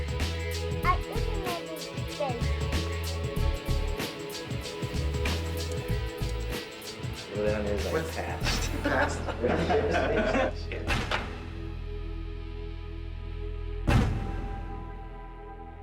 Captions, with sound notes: (kids babbling) (upbeat music) - In other news, I passed. (men laughing) (downcast music)